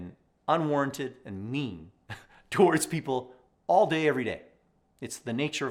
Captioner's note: chuckles